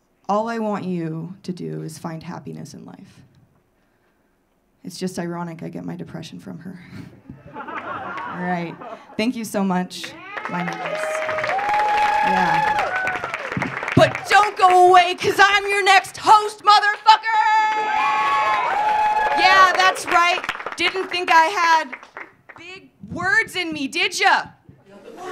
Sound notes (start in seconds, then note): 7.4 audience laughing; 10.0 audience cheering; 10.0 audience clapping; 17.6 audience cheering; 17.6 audience clapping